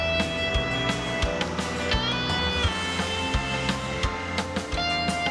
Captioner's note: car engine revs